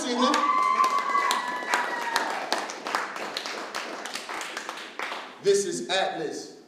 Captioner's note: applause